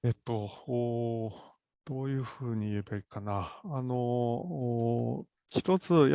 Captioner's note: speaks in Japanese